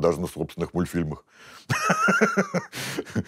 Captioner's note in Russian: смеется